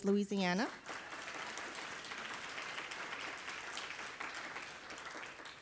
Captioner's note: audience applauding